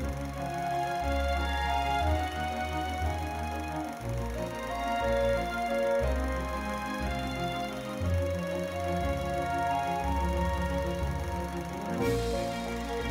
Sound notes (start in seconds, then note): 5.9 reel grinding; 5.9 upbeat music